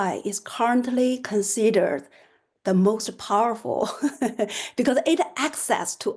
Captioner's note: laughter